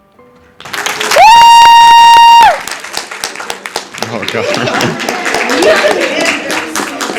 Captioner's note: applause